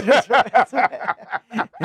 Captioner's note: laughing